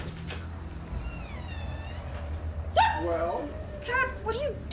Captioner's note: door creaks; Caroline squeals